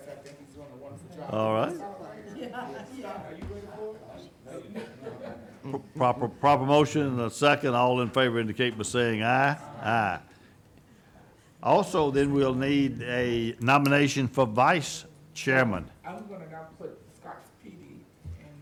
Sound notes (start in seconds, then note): 2.4 group talking